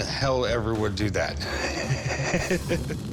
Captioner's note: laughs